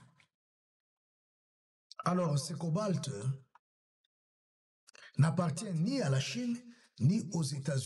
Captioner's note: narrator's voice – firm and prophetic